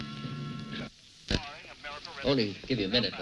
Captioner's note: TV announcing sports game